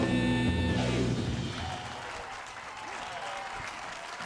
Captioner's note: cheering, applause